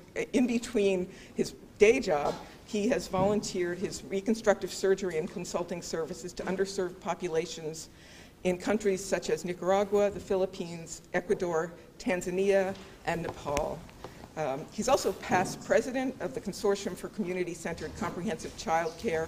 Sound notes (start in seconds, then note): none